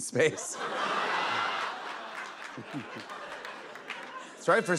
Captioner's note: laughter